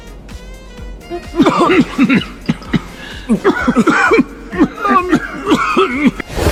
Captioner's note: cough cough